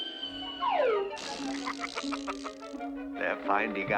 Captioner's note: chuckling